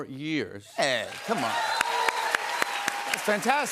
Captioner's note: cheers and applause